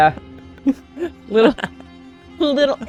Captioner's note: laughing